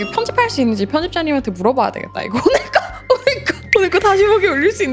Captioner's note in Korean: 웃음